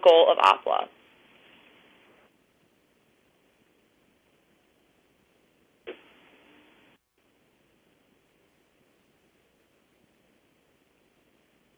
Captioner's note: pause